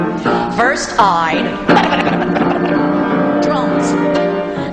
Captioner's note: imitates drums thudding